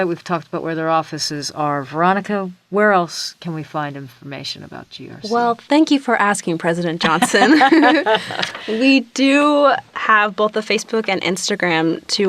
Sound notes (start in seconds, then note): 7.0 laughter